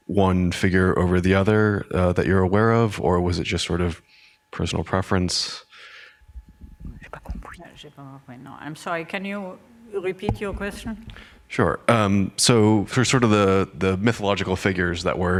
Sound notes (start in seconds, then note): 7.8 speaking french